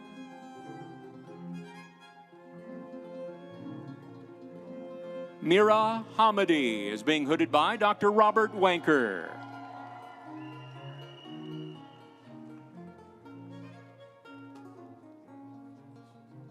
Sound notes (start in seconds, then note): 10.0 audience cheering; 10.0 instrumental music